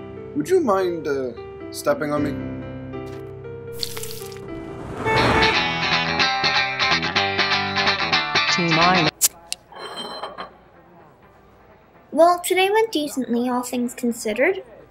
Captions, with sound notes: Would you mind, uh, stepping on me? [SIZZLE] [CAR HORN] [BOTTLE OPENING, SLIDING ACROSS BAR] Well, today went decently, all things considered.